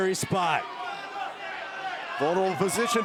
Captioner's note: crowd shouting